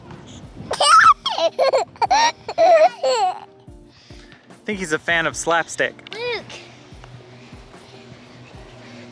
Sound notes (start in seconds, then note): 0.8 laughing